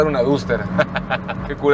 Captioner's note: laughter